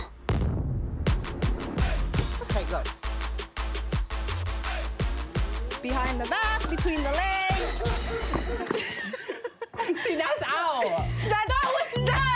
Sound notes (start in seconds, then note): 9.2 laughs